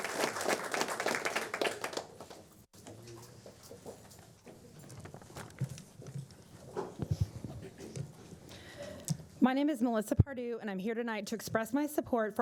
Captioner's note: applause